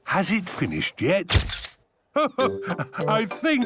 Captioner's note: camera clicks